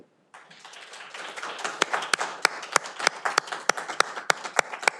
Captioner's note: audience applauding